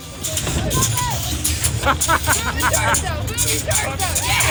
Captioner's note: laughing